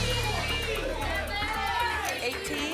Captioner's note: audience shouting numbers